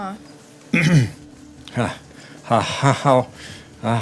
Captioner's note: clears throat